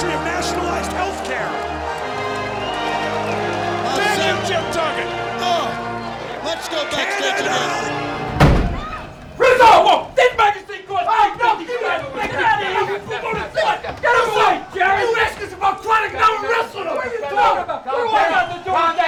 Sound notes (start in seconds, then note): 8.1 door banging; 10.8 all shouting